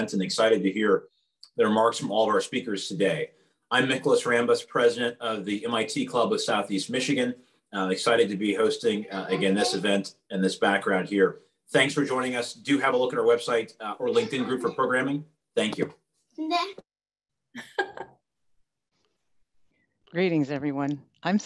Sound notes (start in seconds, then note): 16.4 child talking; 17.6 laughs